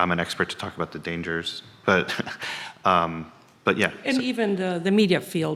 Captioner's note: chuckles